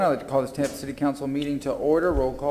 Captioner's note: sounding gavel